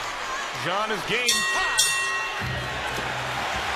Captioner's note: bell rings